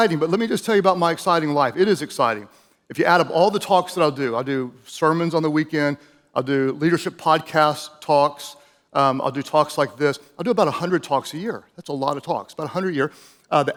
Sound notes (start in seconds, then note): none